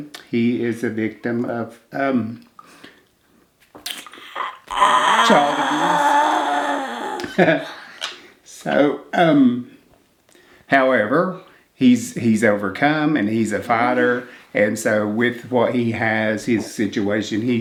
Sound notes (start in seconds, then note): 6.8 grumbles